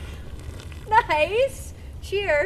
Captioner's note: cans crack open; sipping